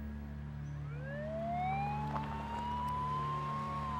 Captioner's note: sirens